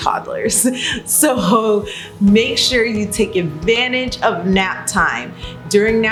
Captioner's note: laughs